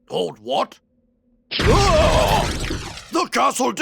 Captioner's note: fiery explosion